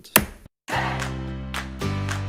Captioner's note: gavel pounds; bright music